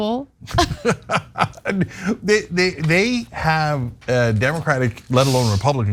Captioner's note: laugh